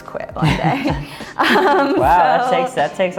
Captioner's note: both laugh